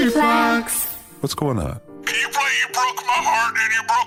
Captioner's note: sobbing